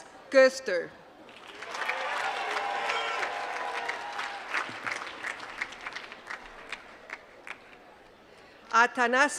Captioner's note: applause